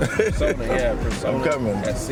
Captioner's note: laughs